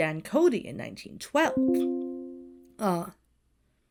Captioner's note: notification dings